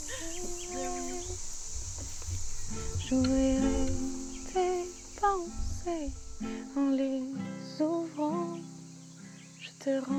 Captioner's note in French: Chant